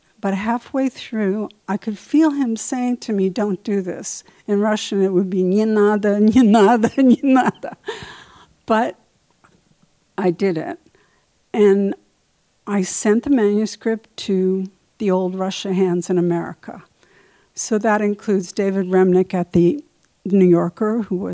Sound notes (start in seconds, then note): 6.2 speaking in Russian; 6.5 laughs